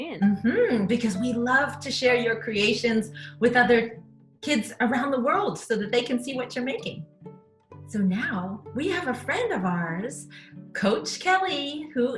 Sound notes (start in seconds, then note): none